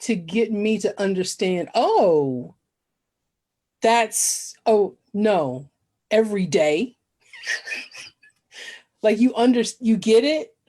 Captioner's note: laughs